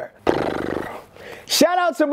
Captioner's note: lips drumming